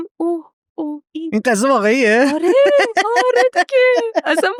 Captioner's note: laughs